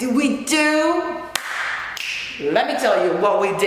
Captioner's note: sound of a clap & finger click